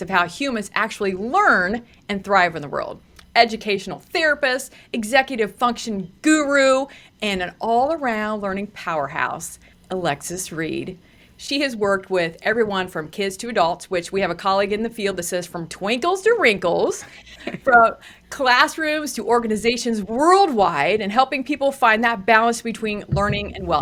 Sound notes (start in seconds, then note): 17.3 laughs